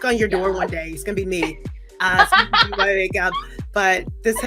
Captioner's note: laughs